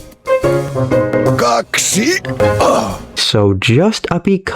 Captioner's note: Daddy Pig Sounds